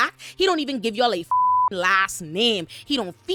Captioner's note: beep